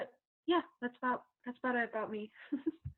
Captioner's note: laughing